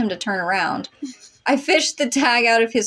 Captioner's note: quiet Snicker